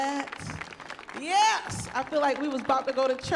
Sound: audience applauds

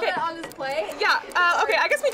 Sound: clock ticking

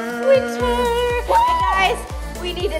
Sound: cheering

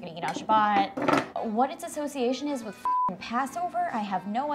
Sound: beep

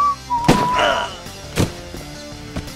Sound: gun shot; man groans

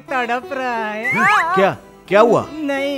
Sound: groans

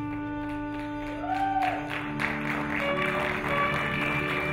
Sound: applauding

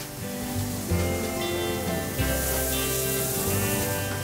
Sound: steam hissing

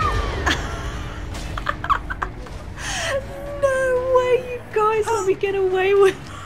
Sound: laughing

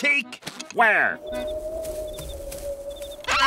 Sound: wind blowing

